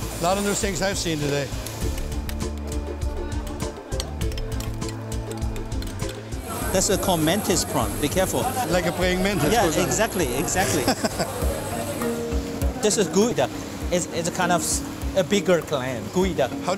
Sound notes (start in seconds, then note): 3.2 chopping noises; 10.4 laughing